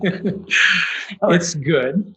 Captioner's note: laughs